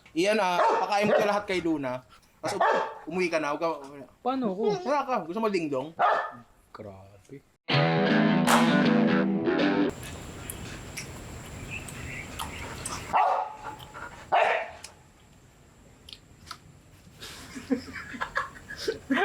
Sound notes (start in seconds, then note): 7.7 outro music; 13.1 barks